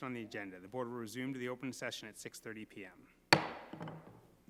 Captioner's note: gavel bangs